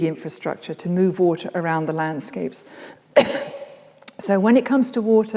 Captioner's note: coughs